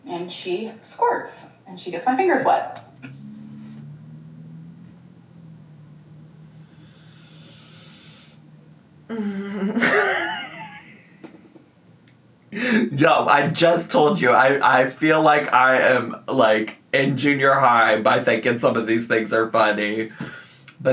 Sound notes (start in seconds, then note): 6.6 inhaling deeply; 9.1 chuckling